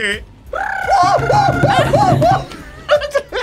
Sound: bleats; laughs; hoots; trills; both laugh

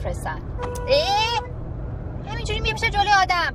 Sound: car horn honking, groaning

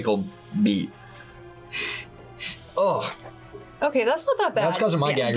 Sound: sniffs

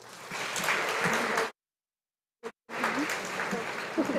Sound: audience applauding

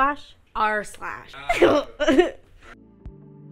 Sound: laughs

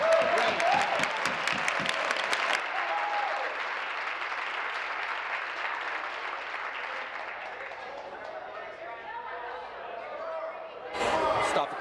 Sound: applause

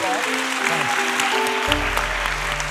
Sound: applause

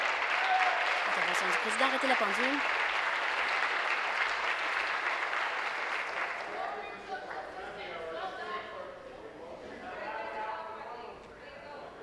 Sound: applause

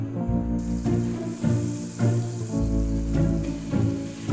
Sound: vegan butter sizzling

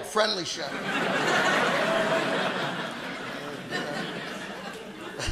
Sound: audience laughing

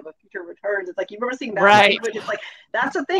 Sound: speaks faintly

